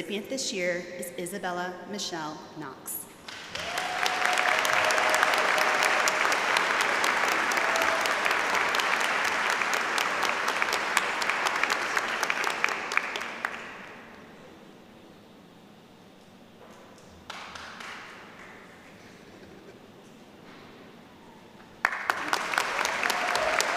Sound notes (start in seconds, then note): 7.1 applause